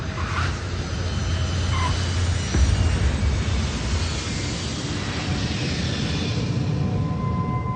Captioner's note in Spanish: Sonido de turbinas